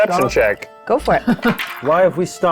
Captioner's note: participant chuckling